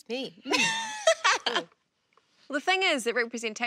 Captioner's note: laughs loudly